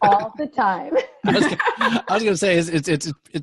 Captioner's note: laughing